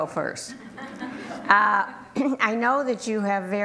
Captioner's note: group laughter